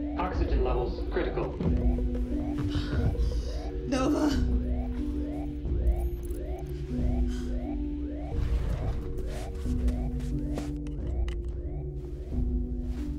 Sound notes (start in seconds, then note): 2.6 breathes heavily; 5.8 computer trilling